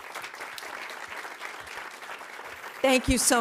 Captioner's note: audience applauding